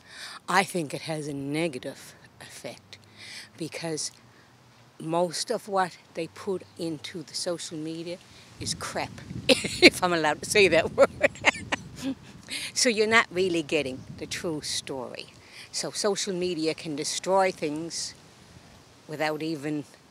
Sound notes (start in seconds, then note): 11.0 laughter